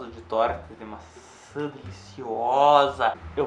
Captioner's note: drunk Sounds